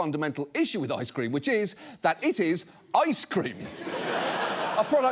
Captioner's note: studio audience laughs